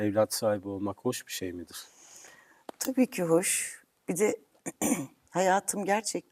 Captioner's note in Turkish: boğazını temizler